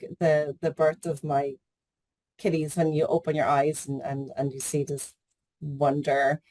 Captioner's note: none